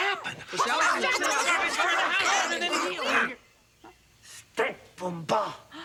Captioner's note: all chattering loudly; Stink gasps